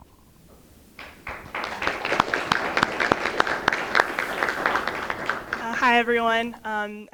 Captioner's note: applause